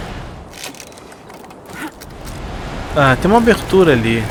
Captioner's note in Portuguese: none